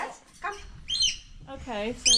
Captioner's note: birds tweeting